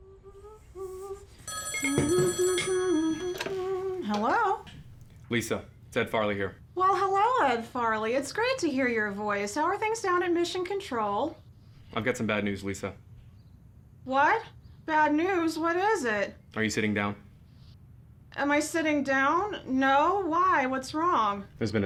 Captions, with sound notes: (Lisa humming) (phone ringing) - Hello? - Lisa, it's Ed Farley here. - Well hello, Ed Farley. It's great to hear your voice. How are things down at Mission Control? - I've got some bad news, Lisa. - What? Bad news, what is it? - Are you sitting down? - Am I sitting down? No, why, what's wrong?